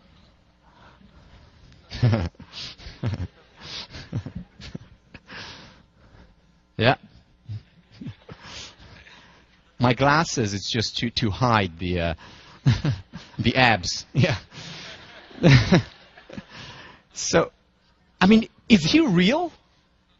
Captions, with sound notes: (Laugh) Yeah.My glasses are just to hide the abs.Yeah. So I mean,is he real?